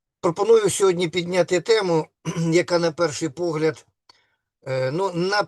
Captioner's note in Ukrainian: прочищення горла